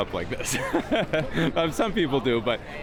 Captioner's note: laughs